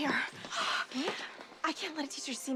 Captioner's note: gasps